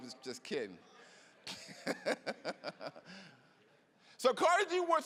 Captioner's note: laughing